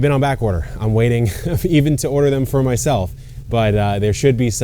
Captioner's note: chuckles